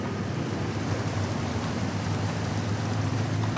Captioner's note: water laps